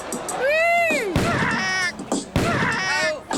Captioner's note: thumping and yelping